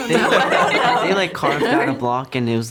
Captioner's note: laughing